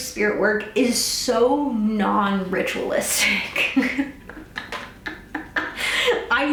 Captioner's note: laughs